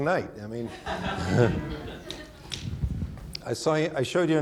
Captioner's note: audience laughing; chuckles